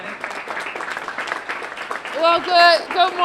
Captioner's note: applause